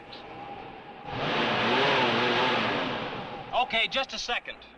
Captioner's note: engine revving